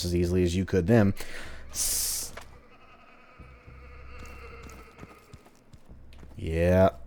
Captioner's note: distant laughter